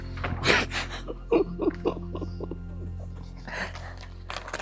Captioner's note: architect laughs